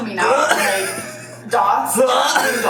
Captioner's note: gags